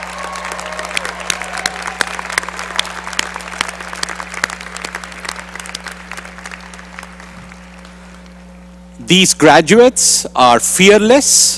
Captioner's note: applause